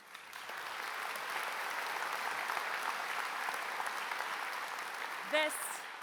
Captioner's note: applause